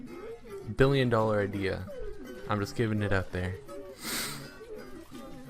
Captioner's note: inhales